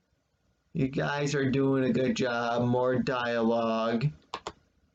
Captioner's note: click of trackpad